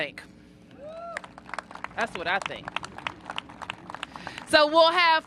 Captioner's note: cheers and applause